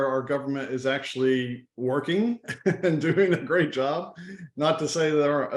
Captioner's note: laughs